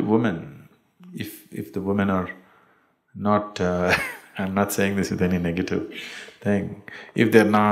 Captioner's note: laughs